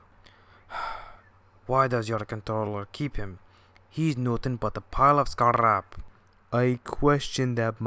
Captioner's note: sigh